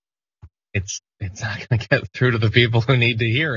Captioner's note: laugh